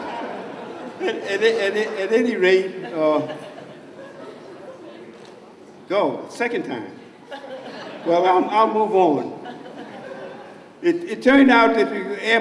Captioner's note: laughs